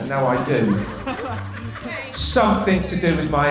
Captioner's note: class laughs